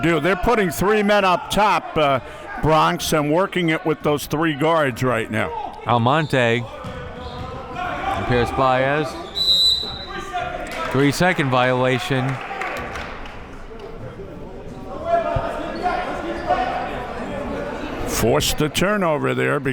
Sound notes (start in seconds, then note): 9.2 whistle blaring; 13.4 chattering faintly